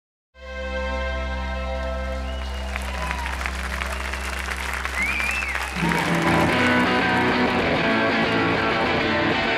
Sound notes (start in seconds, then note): 1.9 audience cheers; 6.9 intro music